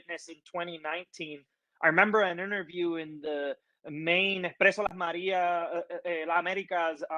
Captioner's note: Spanish language